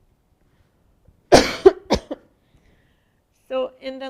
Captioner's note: coughs